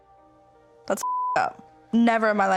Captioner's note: beep